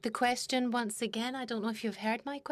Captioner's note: speaking in French